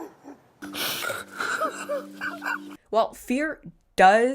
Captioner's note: man sobbing